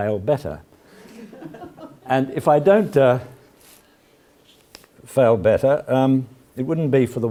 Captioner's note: laugh